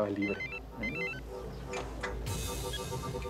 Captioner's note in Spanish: suena un celular